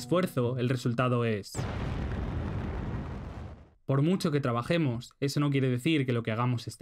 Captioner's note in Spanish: explosión nuclear